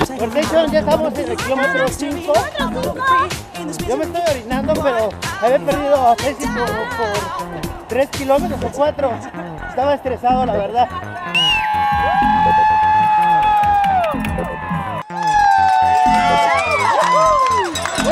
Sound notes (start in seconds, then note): 12.4 crowd cheering; 15.2 crowd cheers